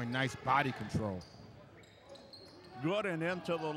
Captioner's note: shoes squeaking